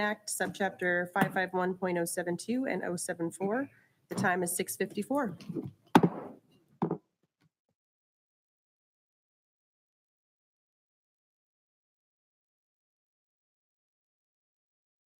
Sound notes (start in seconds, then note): 5.9 gavel bangs